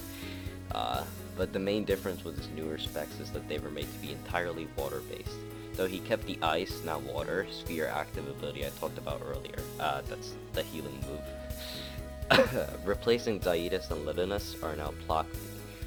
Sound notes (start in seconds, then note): 0.0 breathe in; 9.7 really gross cough, disappear off of the face of the planet earth you swine